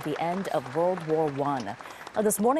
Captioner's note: applause